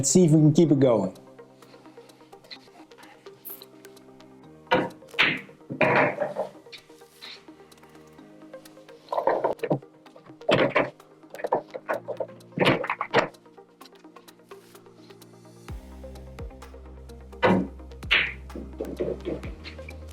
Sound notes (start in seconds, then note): 2.9 balls clanging; 2.9 lively music